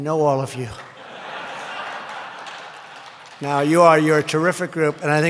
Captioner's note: laughter